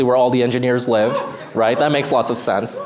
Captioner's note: whooping